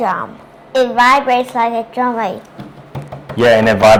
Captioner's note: was then drumming on the table with her hands